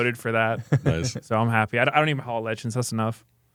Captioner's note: laughs